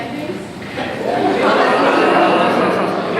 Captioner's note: audience laughter